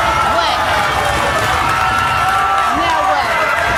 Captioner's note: audience cheering